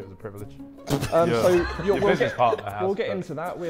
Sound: Sidemen laughing

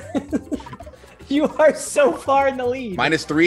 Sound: laugh

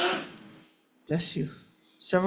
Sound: audience member sneezes

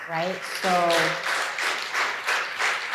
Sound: applause

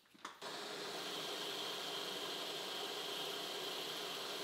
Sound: tools whirring

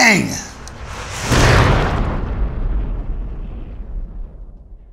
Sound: exploding sound

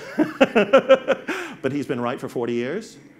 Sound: laughs

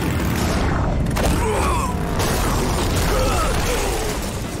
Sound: groaning

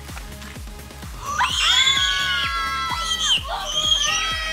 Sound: screams

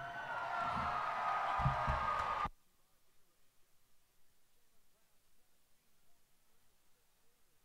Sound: cheers and applause

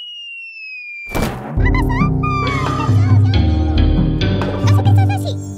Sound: Nina speaks gibberish frighteningly; speaks gibberish

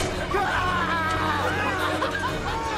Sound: screaming

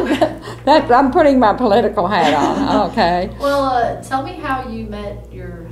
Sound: laughter

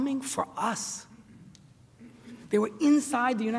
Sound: none

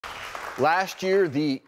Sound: audience claps

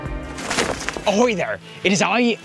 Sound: flag flapping

